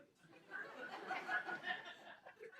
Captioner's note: laughter